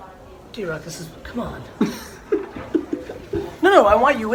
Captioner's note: laughs